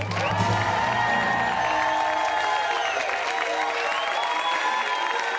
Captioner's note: cheers and applause